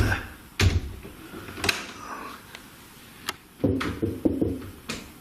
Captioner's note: knocks on door